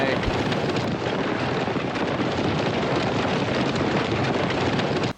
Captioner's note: horses galloping